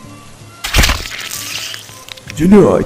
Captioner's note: brutal death sound